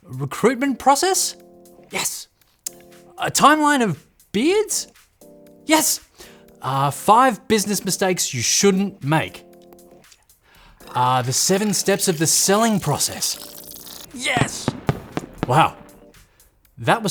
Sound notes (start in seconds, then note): 14.5 fireworks popping